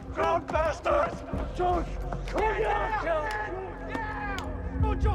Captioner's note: indistinct shouting